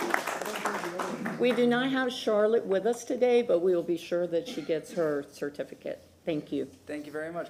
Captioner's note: applause